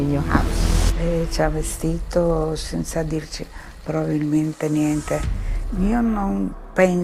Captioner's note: speaking in foreign language